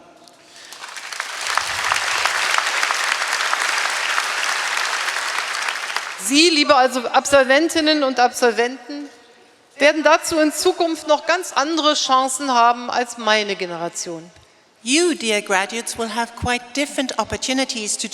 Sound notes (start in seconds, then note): 0.4 applause; 6.2 speaking in German